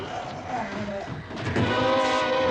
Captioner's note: groans